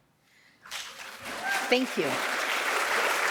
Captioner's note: audience applauding